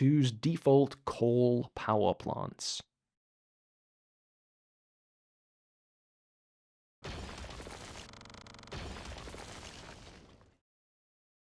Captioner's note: bulldozer SFX repeats